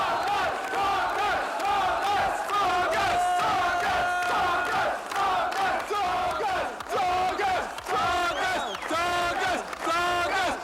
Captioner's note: people chanting